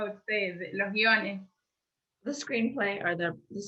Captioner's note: speaking in foreign language